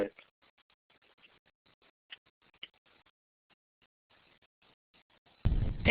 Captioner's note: pause